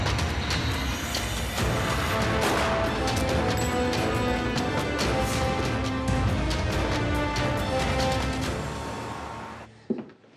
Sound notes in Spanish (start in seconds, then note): 2.2 Detonación de disparo